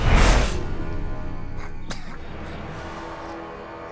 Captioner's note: coughing